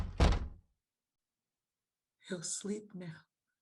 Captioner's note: door closes